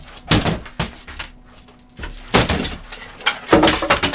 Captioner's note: banging equipment